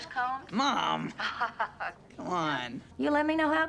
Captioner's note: Rose laughs